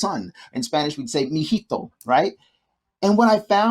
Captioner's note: speaks in foreign language